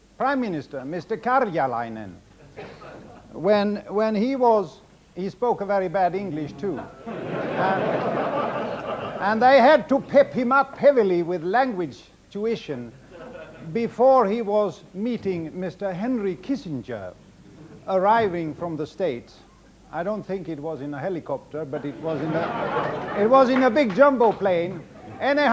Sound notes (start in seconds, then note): 6.8 audience laughs